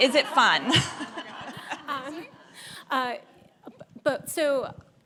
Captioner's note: audience laughs